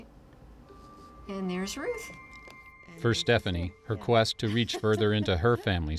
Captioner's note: background laughter